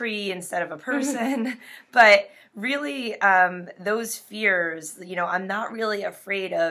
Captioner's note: laughs